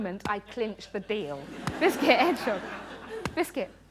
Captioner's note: laughter